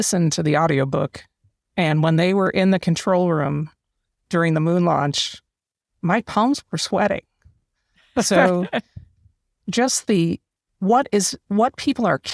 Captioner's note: laugh